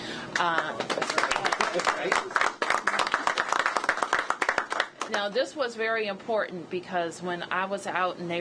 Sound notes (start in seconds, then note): 1.9 applause